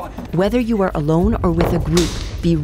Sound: none

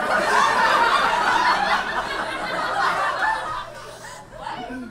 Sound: audience laughs

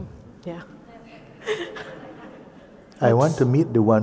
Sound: nods and laughs

